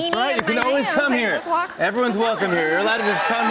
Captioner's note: cheers and applause